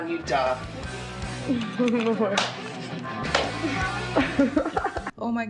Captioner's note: offscreen laugh